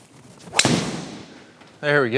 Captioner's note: golf club thwacking